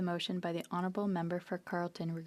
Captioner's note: speaking French